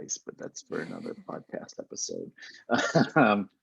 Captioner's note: both laughing